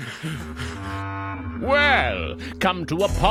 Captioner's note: thudding; panting